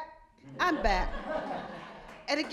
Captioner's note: audience laughing